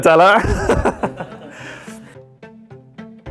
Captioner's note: laughter